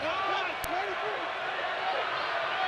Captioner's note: shouting